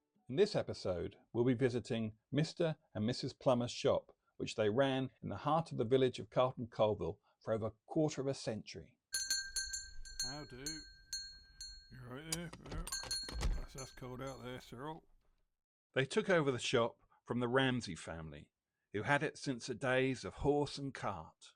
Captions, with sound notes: In this episode we'll be visiting Mr and Mrs Plummer's shop which they ran in the heart of the village of Carton Colville for over a quarter of a century. [Shop bell on door rings] CUSTOMER — How do! You all right there? Blast thas cold out there, Cyril! They took over the shop from the Ramsey family who had it since the days of horse and cart.